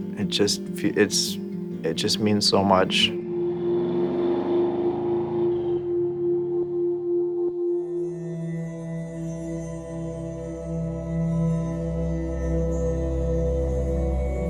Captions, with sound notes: It just feels, it just means so much. (car engine running) (calming music)